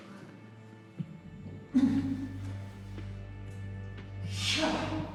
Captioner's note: groans